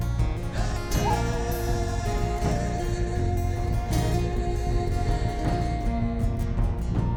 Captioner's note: tribe vocalizing